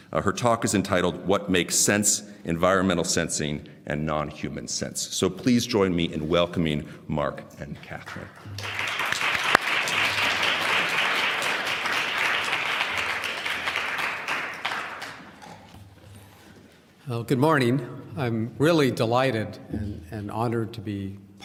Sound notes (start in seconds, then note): 8.0 applause